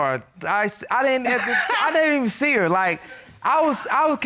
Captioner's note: laughing